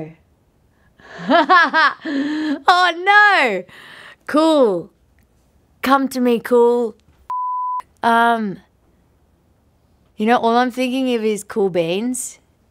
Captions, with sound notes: (laughing) Oh no! Cool. Come to me cool. (beep) Um, you know, all I'm thinking of is cool beans.